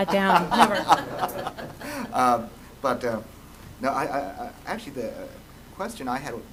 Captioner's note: laughter